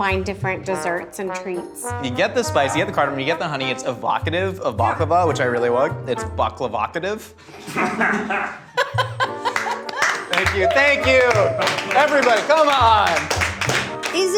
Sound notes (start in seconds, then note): 7.5 group laughing; 8.9 clap